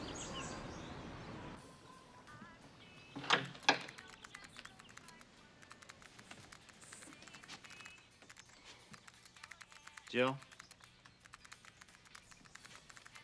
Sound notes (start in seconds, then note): 1.6 soft rock music; 4.2 computer keys clicking